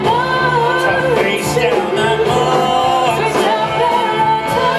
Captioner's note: echoes